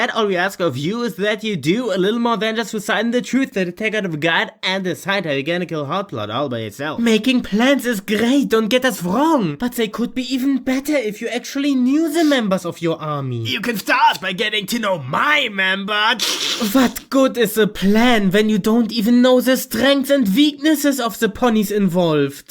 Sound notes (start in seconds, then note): 16.0 chuckles